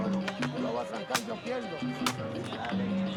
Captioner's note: speaking foreign language; upbeat music